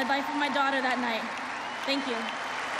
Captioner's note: applause